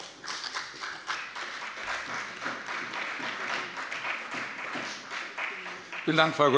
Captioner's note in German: Beifall bei dem BÜNDNIS 90/DIE GRÜNEN und der CDU